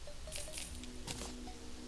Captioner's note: currency sound effect